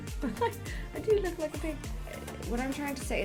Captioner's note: chuckles